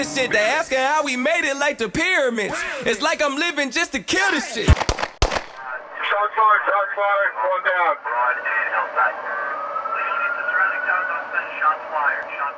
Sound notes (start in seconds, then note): 4.6 gunshots; 7.7 police radio chatter